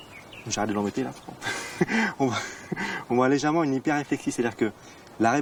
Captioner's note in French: rires